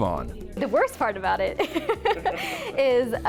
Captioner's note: laugh